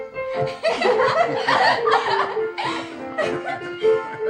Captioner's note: girls laugh